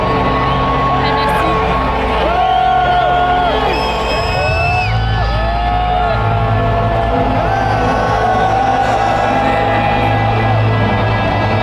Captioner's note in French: Applaudissements